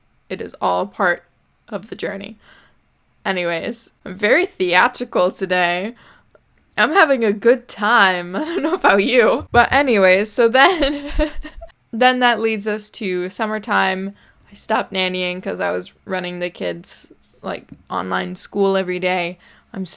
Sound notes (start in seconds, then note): 10.6 giggling; 10.6 laughs